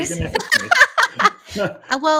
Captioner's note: laughs